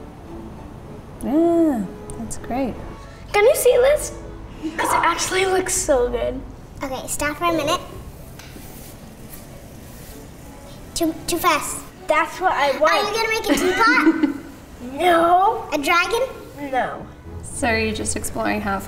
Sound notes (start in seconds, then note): 13.5 laughing